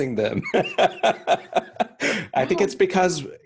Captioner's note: laughs